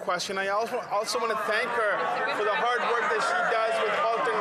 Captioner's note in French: voix de l'interprète